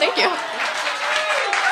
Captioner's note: applause